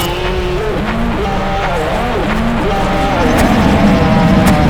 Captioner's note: demon crying